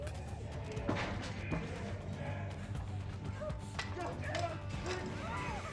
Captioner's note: shouting